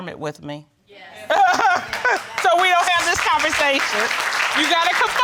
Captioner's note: laughs; audience applauds